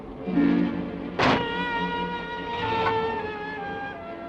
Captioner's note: door thuds